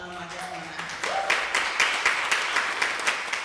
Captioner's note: applause